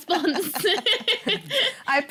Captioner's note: laughter